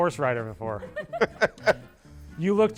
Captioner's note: people laugh